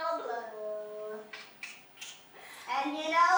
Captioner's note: MONOKUMA tsks